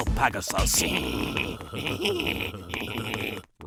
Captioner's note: Rex and Weevil laughing